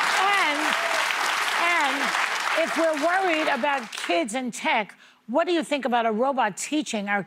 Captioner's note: applause